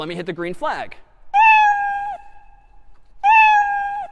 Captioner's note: meowing